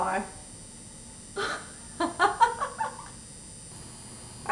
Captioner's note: laughter